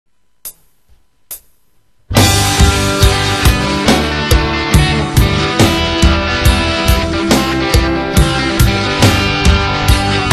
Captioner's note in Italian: spank